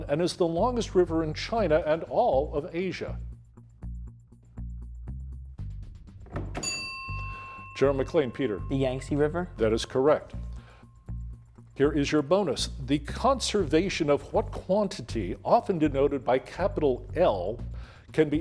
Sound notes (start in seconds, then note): 6.5 bell ringing